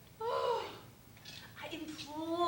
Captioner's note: sighs